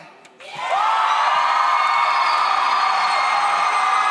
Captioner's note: audience cheers